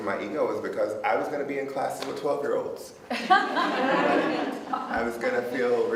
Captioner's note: audience laughs